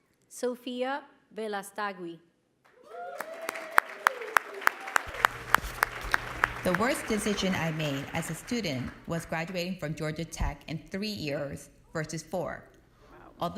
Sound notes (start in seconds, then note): 2.7 applause